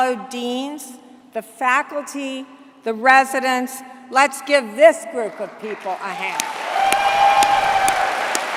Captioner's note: applause